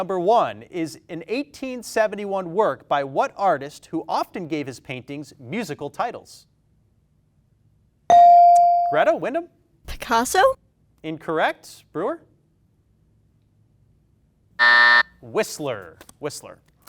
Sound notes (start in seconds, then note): 8.1 bell dings; 14.6 buzzer buzzing